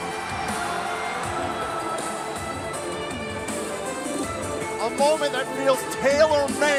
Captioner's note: crowd cheering